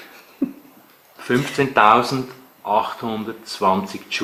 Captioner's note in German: Kameramann kichert